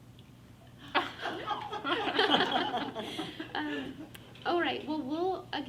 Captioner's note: everyone laughs